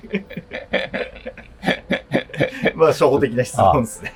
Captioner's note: laughing